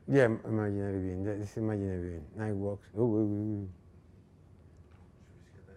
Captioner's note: speaking in foreign language